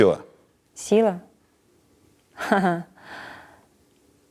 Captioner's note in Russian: усмехается